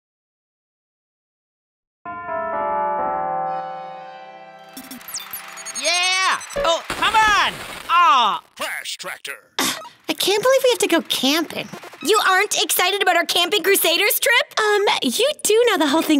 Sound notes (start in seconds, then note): 2.2 bells chime; 4.7 video game beeps